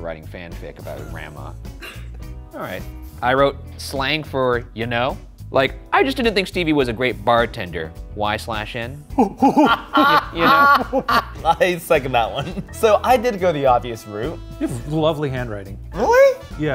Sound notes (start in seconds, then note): 1.8 laughs; 9.1 laughing